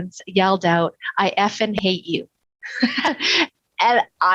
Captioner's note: laughs